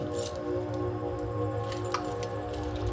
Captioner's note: keys jingling